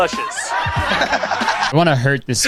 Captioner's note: crowd laughs